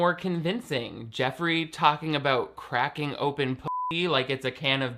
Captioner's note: beep